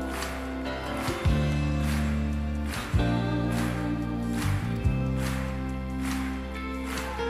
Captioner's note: audience clapping; smooth guitar music